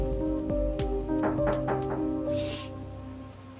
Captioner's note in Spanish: Llaman a la puerta